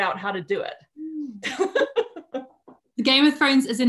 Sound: laughing

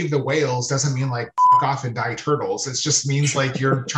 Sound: beeps

